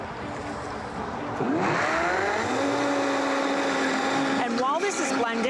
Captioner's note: blender whirring